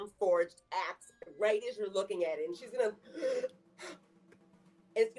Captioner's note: gasping